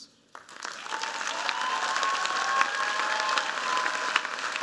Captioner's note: cheers, applause